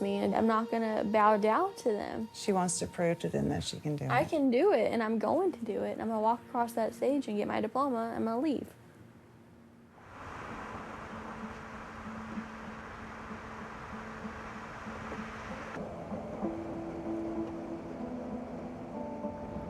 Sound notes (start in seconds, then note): 12.2 road ambience; 17.3 dramatic music